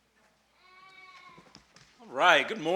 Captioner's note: baby cries